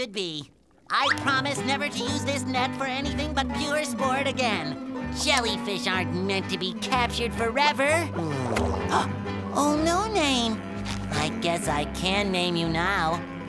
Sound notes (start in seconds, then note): 7.7 buzzing; 8.1 gasping